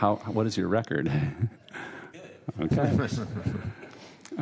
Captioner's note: laughter